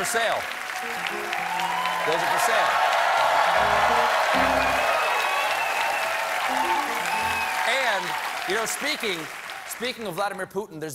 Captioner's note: cheers and applause